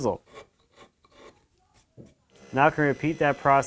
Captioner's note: chisel scraping